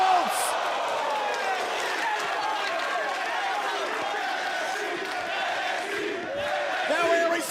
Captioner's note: crowd cheering